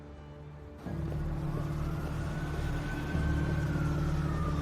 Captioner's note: suspenseful music; distant siren wailing